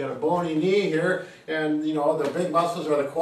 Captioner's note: hands tapping